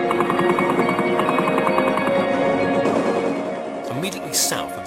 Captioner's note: artillery firing